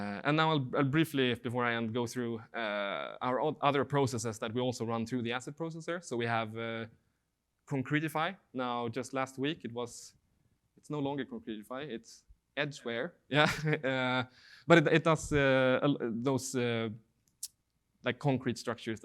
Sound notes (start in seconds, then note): 13.4 laughing